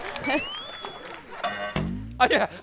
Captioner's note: delayed laugh